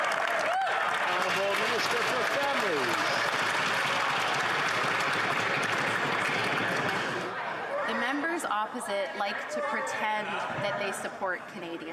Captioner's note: yelling